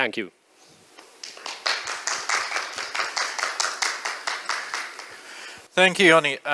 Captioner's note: applause